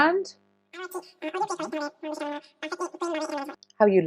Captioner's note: melon makes chattering sound